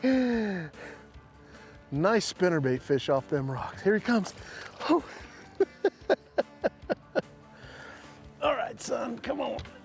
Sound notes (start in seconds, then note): 4.8 chuckling